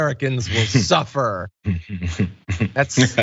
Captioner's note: laugh